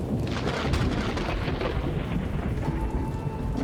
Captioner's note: rain and rumbling thunder; lightning crash; rain and thunder continues